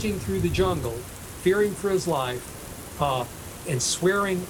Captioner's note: heavy rain pattering